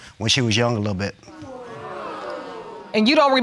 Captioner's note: audience exclaiming